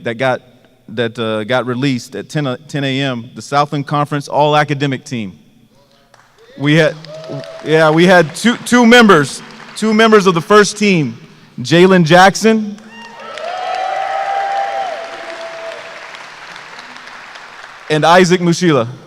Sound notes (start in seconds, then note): 12.8 applause